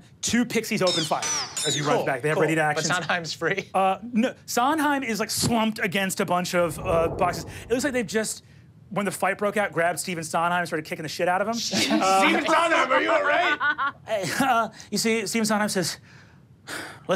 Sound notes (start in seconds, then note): 11.9 laughs